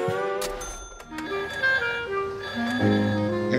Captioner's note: telephone ringing